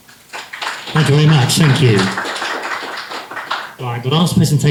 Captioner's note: applause